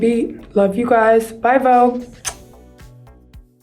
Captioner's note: lip smacking; gentle techno music